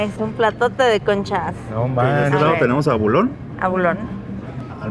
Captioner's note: speak in Spanish